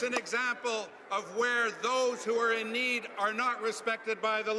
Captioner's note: applause